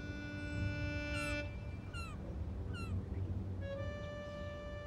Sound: birds chirping; gentle orchestral music

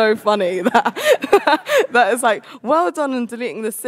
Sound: laughs

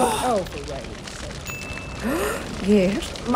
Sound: light bulb dings

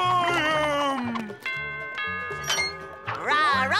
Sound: doorbell ringing

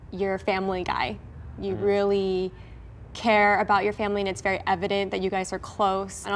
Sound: none

